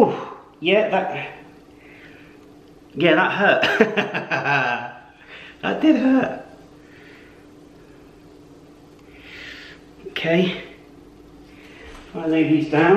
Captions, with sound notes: Yeah, that... yeah, that hurt. *Laughs* That did hurt! Okay, I'm gonna lay these down.